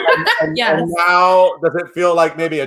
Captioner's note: laughs